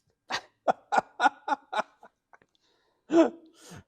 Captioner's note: laughs